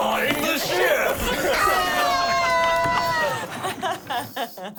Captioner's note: everyone laughing